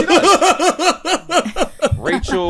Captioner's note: laughter